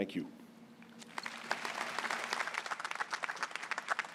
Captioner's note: applause